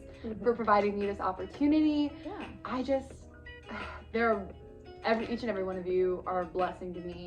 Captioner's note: sigh